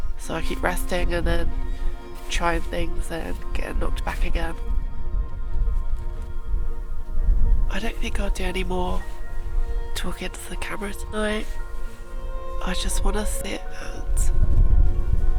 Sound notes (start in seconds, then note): none